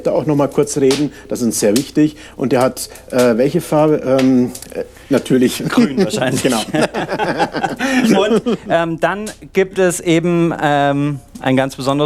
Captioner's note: laughing